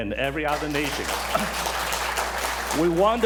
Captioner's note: applause